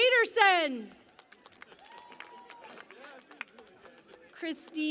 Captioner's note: cheering and Applause